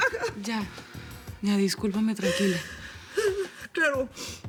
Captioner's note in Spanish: Sollozos